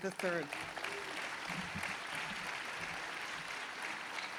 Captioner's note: applause